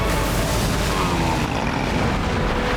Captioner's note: grunting